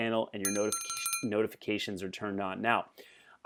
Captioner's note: dinging